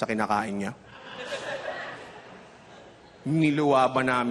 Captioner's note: chuckling